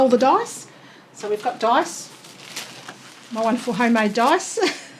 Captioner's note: giggles